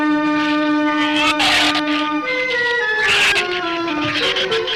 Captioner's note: shrew snarls